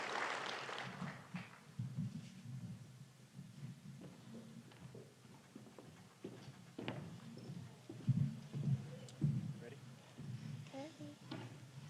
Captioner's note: applause